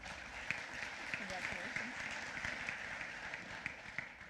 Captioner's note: applause